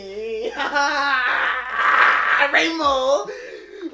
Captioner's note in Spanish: risas